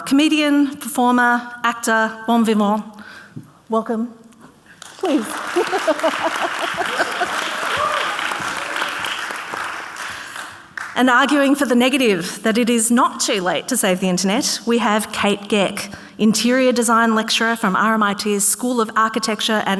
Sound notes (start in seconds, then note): 4.8 audience cheering; 4.9 laughs